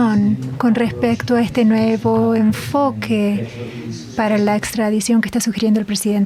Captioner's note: in Spanish